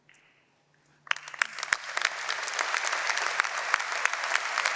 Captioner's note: applause